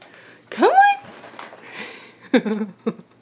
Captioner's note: laughs